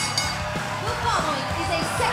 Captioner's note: bell ringing